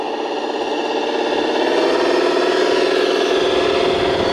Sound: machine humming

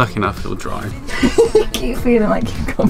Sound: laughs

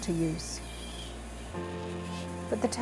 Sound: tape squeaks

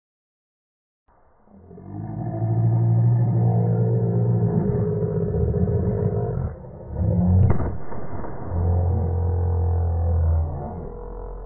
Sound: sound of monster

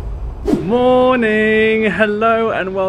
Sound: screen wipe whooshes

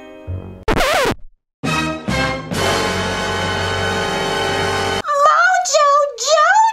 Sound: record scratching; suspenseful music

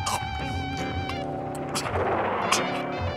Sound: chokes

